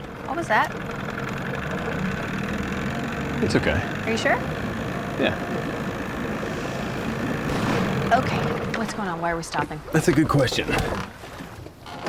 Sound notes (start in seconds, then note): 2.3 engine sputters; 7.1 engine backfires